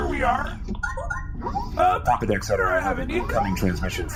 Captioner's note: communicator chimes